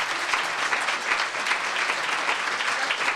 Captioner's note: applause